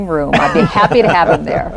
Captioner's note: laughter